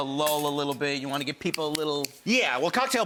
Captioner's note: snaps fingers